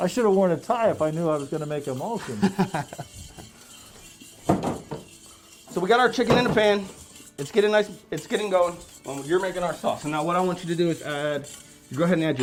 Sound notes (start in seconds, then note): 2.1 laughing